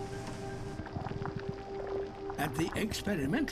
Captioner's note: bubbling and popping sounds